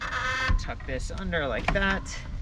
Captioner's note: metal squeaking